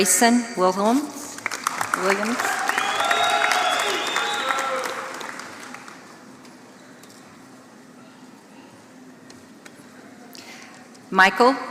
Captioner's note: applause